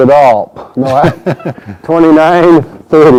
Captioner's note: laughs